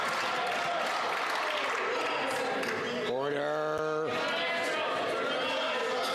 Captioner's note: applause